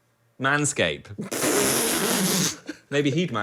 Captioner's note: laughs